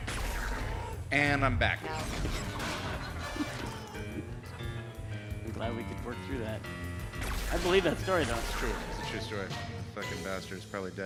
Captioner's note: laughter